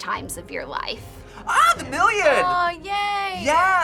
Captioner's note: gasps